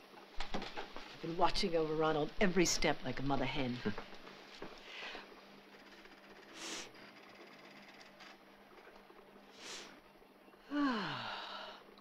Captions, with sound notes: - I've been watching over Ronald every step, like a mother hen. (sniffing) Ah.